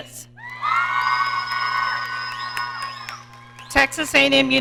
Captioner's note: audience cheering